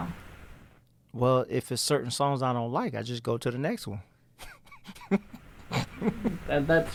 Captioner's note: laughs